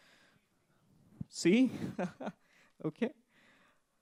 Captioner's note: laughs